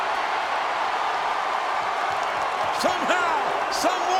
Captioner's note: crowd cheering